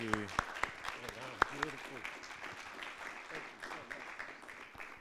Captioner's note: audience clapping